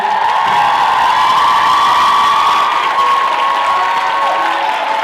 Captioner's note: applause; cheering; upbeat music